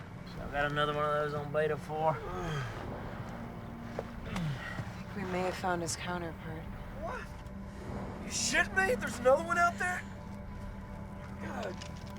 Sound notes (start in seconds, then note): 2.2 grunting